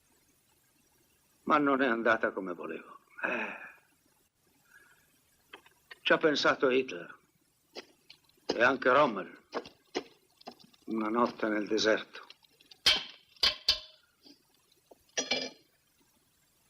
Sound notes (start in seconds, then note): 3.2 sighs